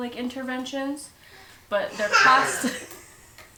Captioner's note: child laughing